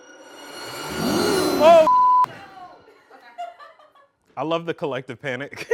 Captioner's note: beep